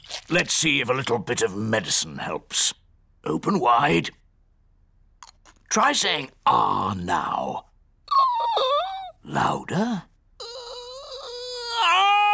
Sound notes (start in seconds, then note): 8.3 squeaks; 10.6 squeaks